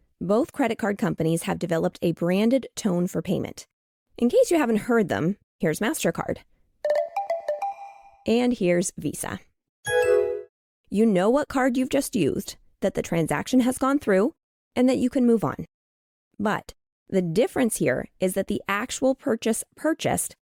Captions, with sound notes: Both credit card companies have developed a branded tone for payment. In case you haven't heard them. Here's Mastercard (SFX- Mastercard payment tone) and here's VISA. (SFX- VISA payment tone) You know what card you've just used, that the transaction has gone through, and that you can move on. But the difference here is that the actual purchase purchased